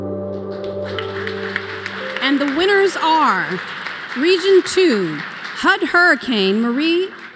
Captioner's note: applause